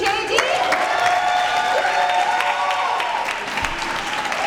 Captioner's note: audience cheers